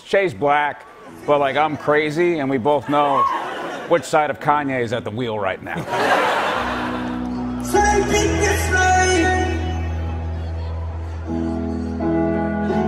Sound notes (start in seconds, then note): 5.7 laughter